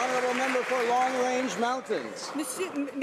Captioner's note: some Applause